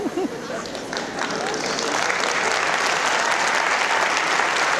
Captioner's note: audience applause